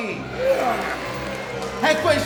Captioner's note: crowd cheering